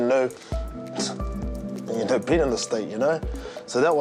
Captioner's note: chuckles